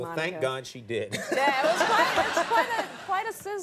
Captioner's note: Conan and audience laughing